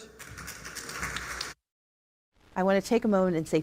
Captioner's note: applause